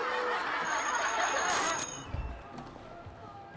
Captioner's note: bell ringing